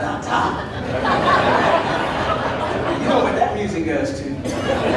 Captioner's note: audience laughing